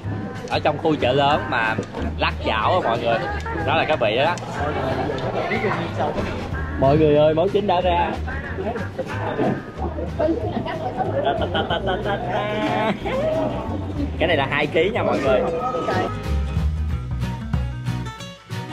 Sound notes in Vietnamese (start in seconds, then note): 10.2 Tiếng cười